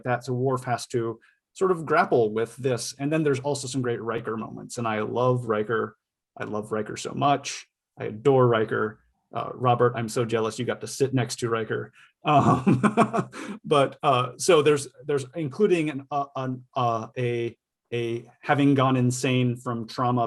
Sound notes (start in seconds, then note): 12.3 laughs